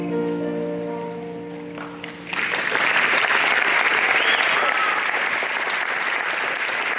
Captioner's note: audience applauding